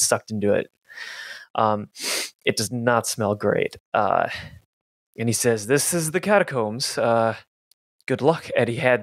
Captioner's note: sniffs